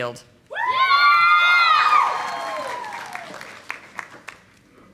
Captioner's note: audience applauding